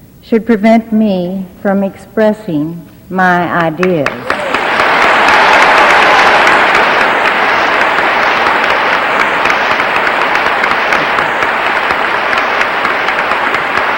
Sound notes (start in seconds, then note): 4.2 audience applauding